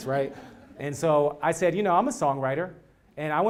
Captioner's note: laugh